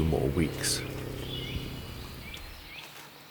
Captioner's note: wildcat purring